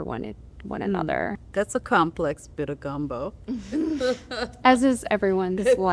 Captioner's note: laughter